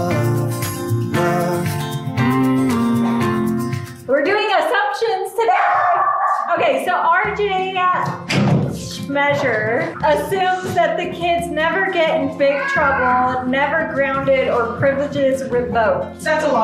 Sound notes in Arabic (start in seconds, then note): 2.5 همسات; 5.5 كلب ينبح